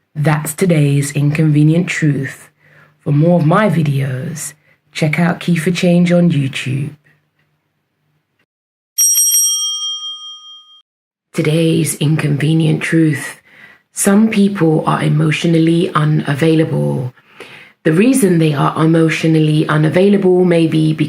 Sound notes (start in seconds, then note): 9.0 bell rings